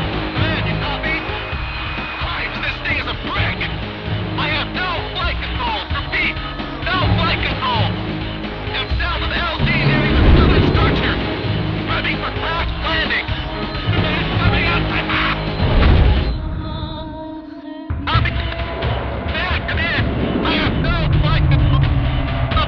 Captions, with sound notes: Command, you copy? Christ, this thing is a brick! I have no flight control. Repeat! No flight control! I'm south of the LZ, nearing the southern structure! Ready for crash landing! Command! [signal breaking] Copy? Command, come in! I have no flight control!